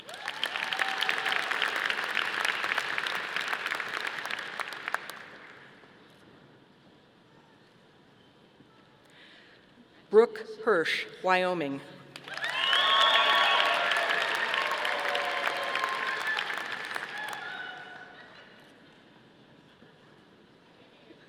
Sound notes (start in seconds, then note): 0.0 audience applauding; 12.1 audience applauding